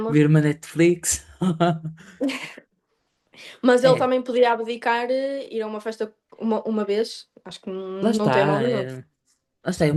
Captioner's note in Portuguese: risadas